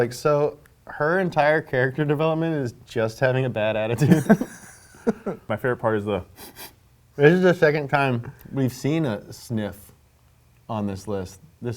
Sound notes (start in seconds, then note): 6.3 sniffs